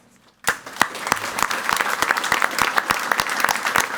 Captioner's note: people clapping